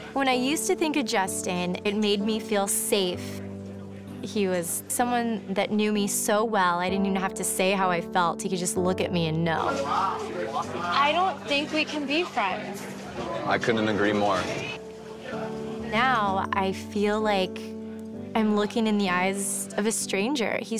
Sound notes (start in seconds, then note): none